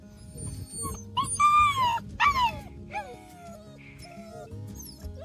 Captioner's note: puppy whimpering